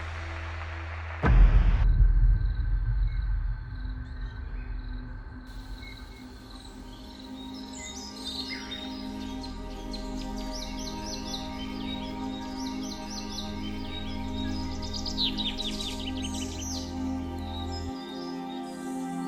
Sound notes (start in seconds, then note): 2.1 crickets chirping; 6.0 birds chirping; 7.2 slow music; 15.9 slow music continues